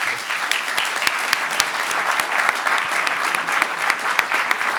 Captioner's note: audience applauds